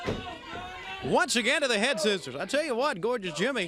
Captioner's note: crowd chatter